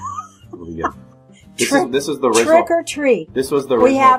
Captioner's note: laughs